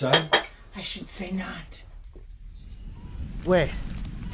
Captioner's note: coffee cup clinks